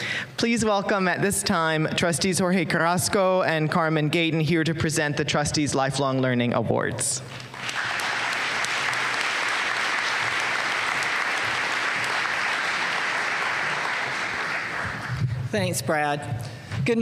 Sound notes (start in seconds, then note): 7.2 applause